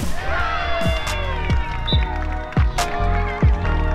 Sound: cheering; hip hop beat

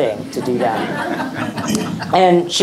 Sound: audience laughing

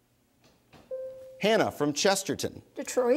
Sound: bell dings

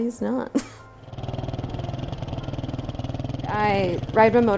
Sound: laugh; motorcycle running

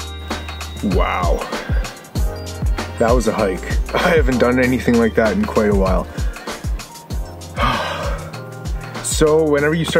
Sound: sigh

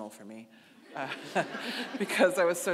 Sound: audience laughing

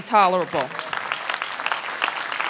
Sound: applause

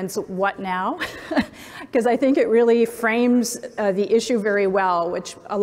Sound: laughs

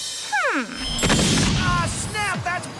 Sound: flashbang

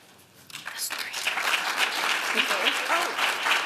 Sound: applause

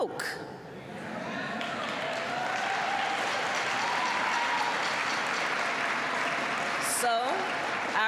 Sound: applause

